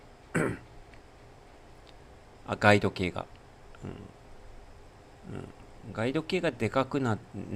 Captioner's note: clears throat